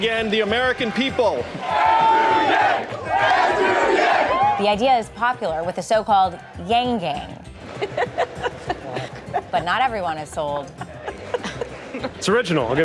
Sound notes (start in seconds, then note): 7.7 laughing